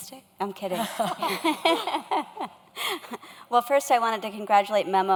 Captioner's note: laughs